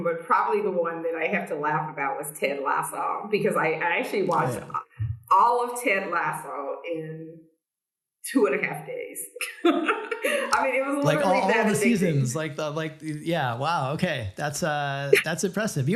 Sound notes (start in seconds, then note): 9.6 laughs